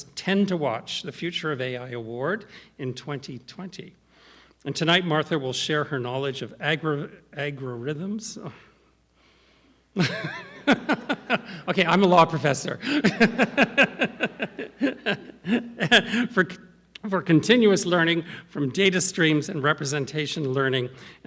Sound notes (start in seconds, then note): 10.0 laughs